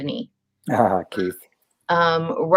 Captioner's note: laughs